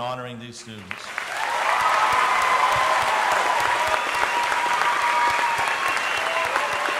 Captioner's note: audience applauding; audience cheering